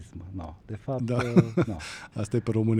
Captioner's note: laughter